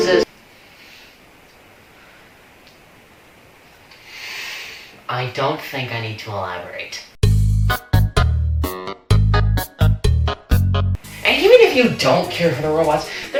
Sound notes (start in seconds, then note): 0.2 silence; 2.6 pop; 2.9 silence; 4.0 deep inhale